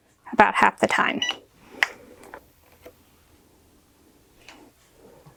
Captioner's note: machine beeps